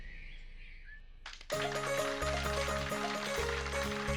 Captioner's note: audience applauding